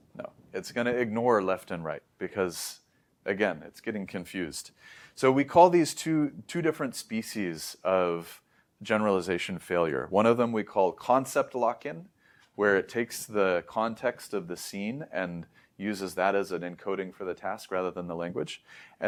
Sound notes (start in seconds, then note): 4.8 inhales